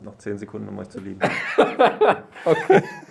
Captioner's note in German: Lachen